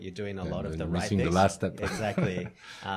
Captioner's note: laughs